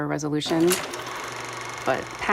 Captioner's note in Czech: chrastění filmu